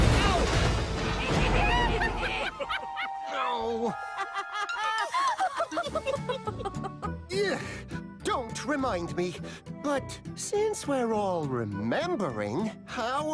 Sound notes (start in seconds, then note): 1.5 Trucks Giggle; 4.6 Thomas, Percy, and Rebecca laughs